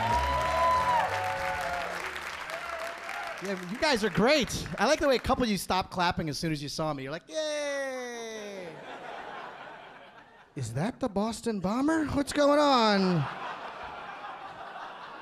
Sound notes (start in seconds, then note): 0.0 audience cheering; 8.3 audience laughing; 12.1 audience laughing